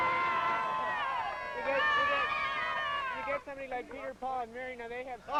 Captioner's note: crowd cheering